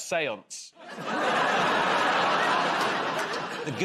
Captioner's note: laughter